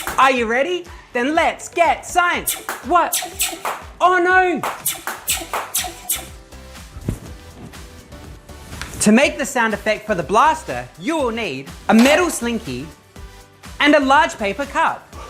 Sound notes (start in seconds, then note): 2.4 more blaster sounds; 3.1 blaster sound